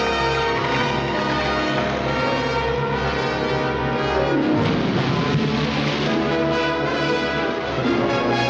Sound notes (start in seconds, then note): 4.7 splashing